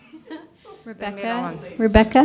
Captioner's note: soft laughter